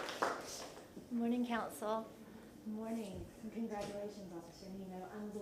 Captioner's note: applause